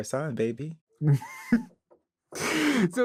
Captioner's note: chuckles